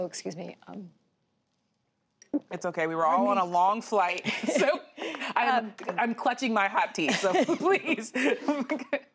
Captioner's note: laughter